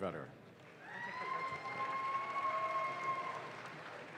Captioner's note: audience claps